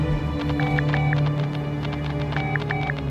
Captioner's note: call fail tone